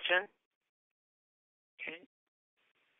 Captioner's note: silence